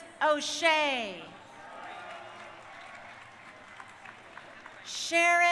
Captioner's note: crowd cheering